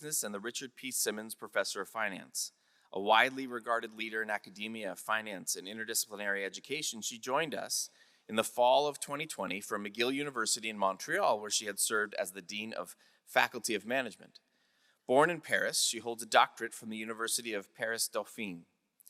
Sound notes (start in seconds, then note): none